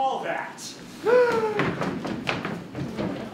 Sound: gasp

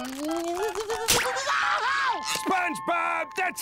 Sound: screaming

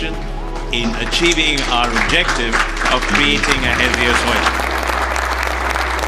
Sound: applause

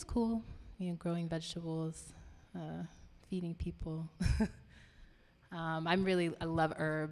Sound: laughing

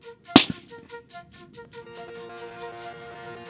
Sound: exploding

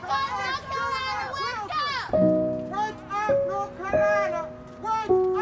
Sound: woman yelling simultaneously

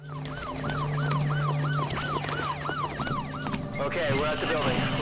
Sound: sirens

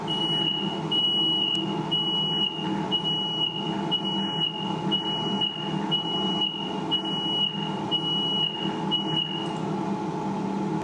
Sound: machine beeps

